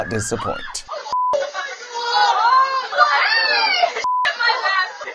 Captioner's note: children screaming